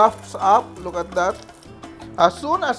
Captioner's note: sizzle